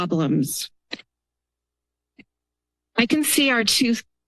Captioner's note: pause